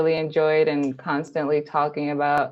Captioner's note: none